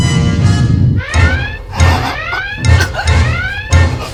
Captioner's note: kirk gasps for air